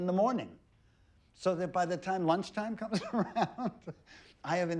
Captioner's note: laughs